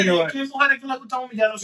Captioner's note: speaking In Foreign Language